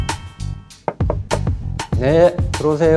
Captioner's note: knock knock